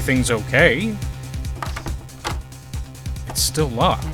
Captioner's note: doorknob rattles